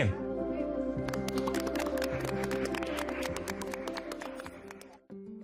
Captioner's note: applauding